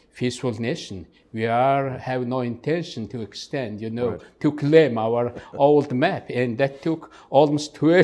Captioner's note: laugh